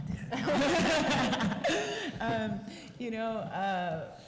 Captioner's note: laughter